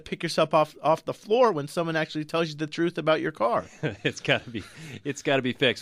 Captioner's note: laughs